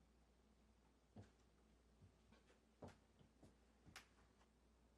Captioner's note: footsteps scuffing